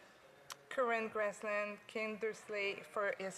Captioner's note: speaking French